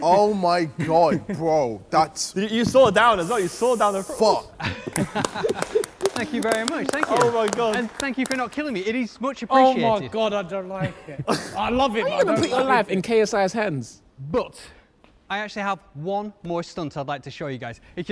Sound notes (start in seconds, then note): 4.9 clapping